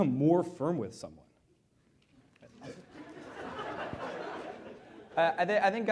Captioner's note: laughter